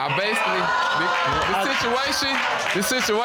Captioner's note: audience exclaiming